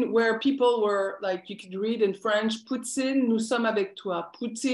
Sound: non-english speech

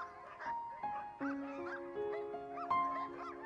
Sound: dogs barking; gentle music

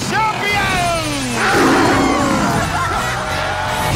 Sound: cheering

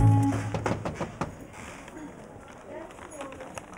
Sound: bell ringing; door knocking

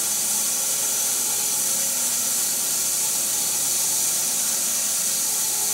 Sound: saw whirring continues

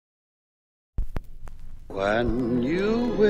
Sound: phonograph hissing

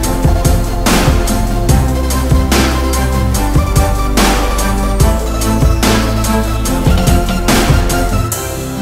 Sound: stamp, stamp, stamp, clap, clap; stamp, stamp, stamp, clap, clap

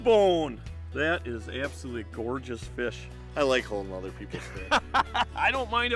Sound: laughing

